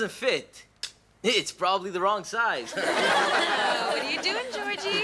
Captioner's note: audience laughs